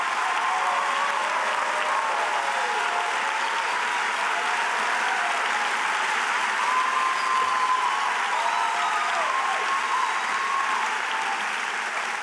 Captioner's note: cheers and applause